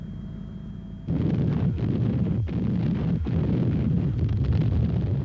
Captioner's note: tanks blasting